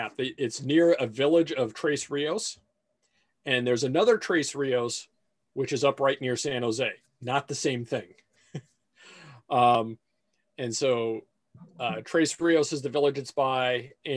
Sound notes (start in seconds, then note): 8.5 chuckles